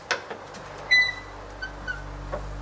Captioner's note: door creaking